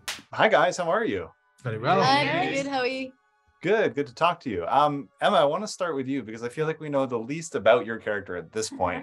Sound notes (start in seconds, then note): 1.7 everyone greeting